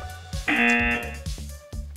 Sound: buzzer

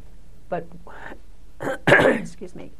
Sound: coughs

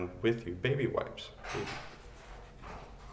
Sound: door to bathroom opens

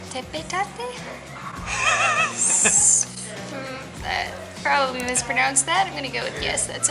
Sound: laughter

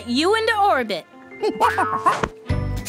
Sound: monkey noises

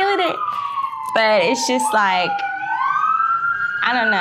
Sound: sirens wailing

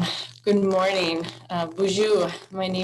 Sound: speaks in foreign language

